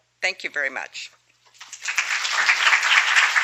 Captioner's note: applause